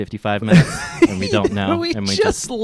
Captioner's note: laughing